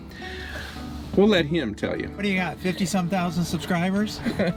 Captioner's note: laughs